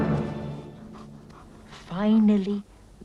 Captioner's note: Beast panting